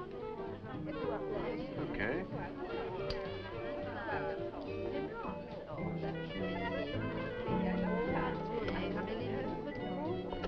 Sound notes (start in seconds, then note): 3.9 people chattering; 3.9 upbeat music